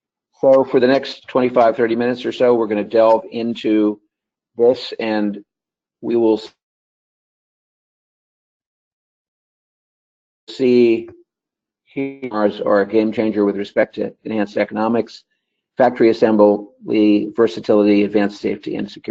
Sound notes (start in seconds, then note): 6.5 break in audio